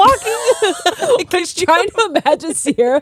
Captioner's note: both laughing